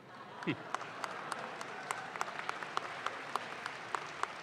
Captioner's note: audience claps